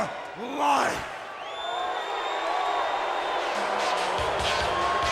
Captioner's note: crowd cheering